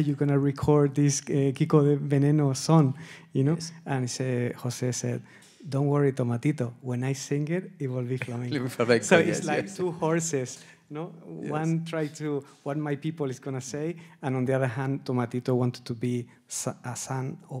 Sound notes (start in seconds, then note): 9.0 laughs and speaks indistinctly